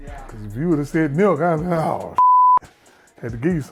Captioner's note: beep